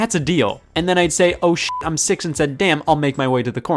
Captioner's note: beep